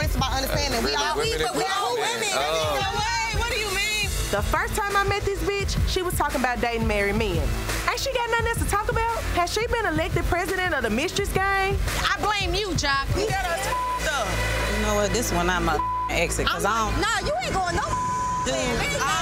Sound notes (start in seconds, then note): 13.5 beep; 17.2 beep